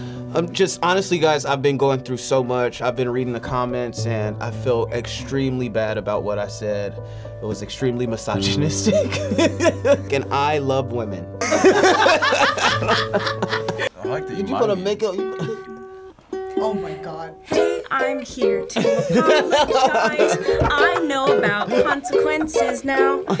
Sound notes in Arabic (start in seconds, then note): 8.4 يضحك; 11.4 الجميع يضحكون